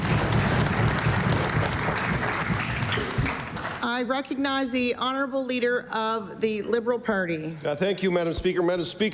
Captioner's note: cheering/Applause